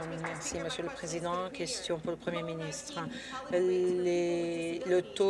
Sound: some Applause

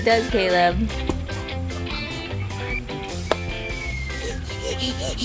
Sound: soles slapping; laughing

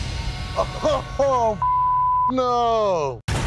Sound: laughs

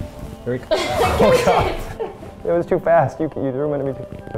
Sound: laughter

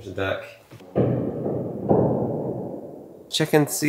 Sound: thunder rumbling

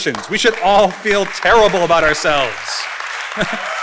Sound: audience laughing; chuckles; audience applauding

